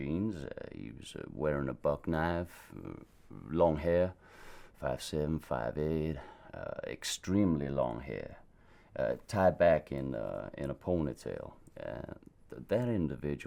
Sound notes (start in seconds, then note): none